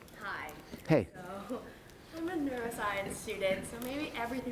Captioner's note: voiceover